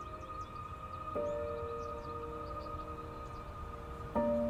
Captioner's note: birds chirping